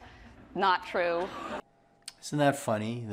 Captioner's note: group laughing